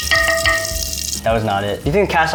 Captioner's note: spatula clangs against pan; candy rustles and clangs against pan